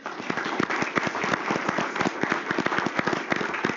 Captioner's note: applause